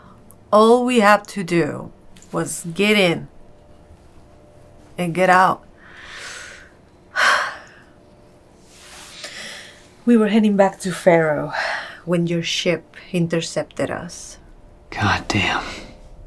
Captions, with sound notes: All we had to do was get in... and get out. [Naomi sighs] We were heading back to Ferro when your ship intercepted us. Goddamn...